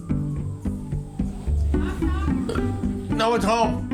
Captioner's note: burps